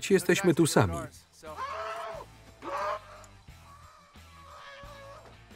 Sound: muffled screaming

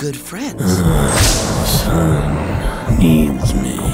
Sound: Dad grunting

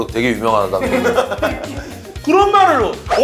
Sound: hahaha

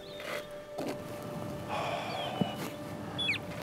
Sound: Alister sighs

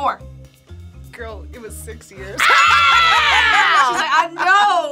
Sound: both scream

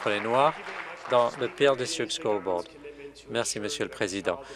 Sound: applause

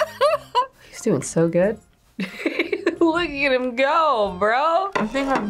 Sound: laughs; laughs

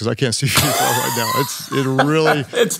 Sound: laughs

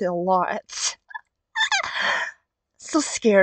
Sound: squeal

